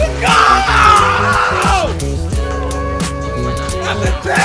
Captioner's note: yelling